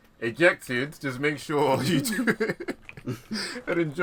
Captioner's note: laughs